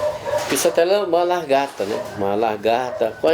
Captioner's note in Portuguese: latidos do lado de fora da casa